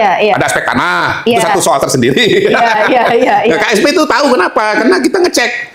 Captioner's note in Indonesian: tertawa